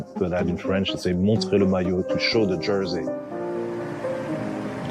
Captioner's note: speaks French